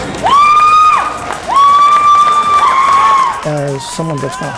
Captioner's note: screams of joy